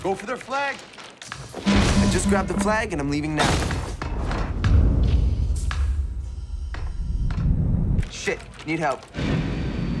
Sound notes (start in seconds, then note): 1.7 alarm ringing; 5.1 low thudding